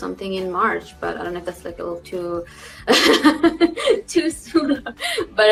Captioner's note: laughs